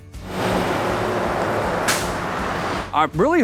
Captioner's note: traffic noise